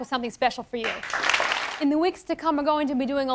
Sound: applause

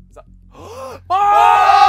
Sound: gasps

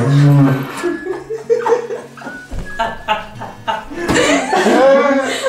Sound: laughes

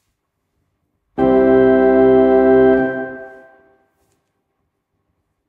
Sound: long ding sound

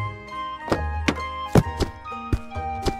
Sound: door open; footsteps

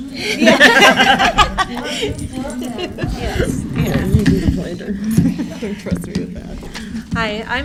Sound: laughter

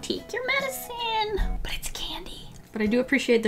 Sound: whispers

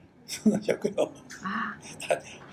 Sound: foreign language

